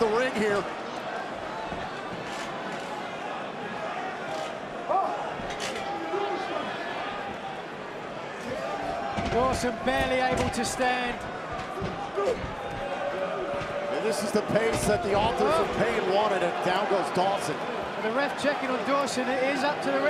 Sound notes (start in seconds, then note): 3.1 crowd chatter